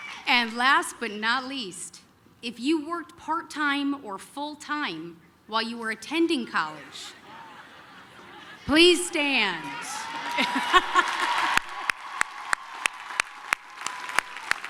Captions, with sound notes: And last but not least, if you worked part time or full time while you were attending college, please stand. [LAUGHS] [APPLAUSE, CHEERING]